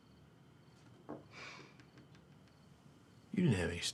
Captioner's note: Tania sighs